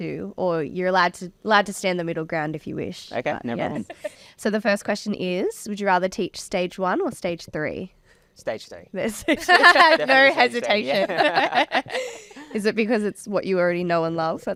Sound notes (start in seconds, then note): 9.2 laughing; 9.3 everybody laughing